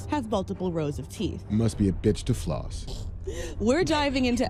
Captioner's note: princess chuckles